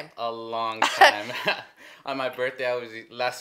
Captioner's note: both laugh